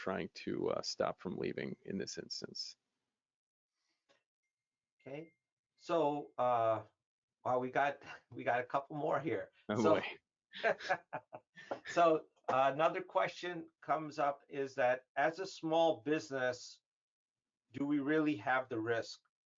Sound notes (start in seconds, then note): 10.6 laughing